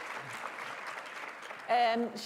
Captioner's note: applause